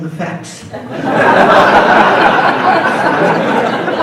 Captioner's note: audience laughs